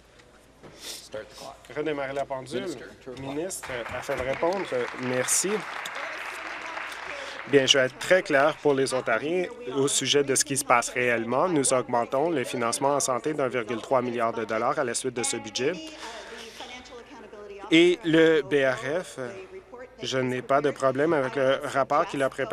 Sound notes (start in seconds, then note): 6.8 applause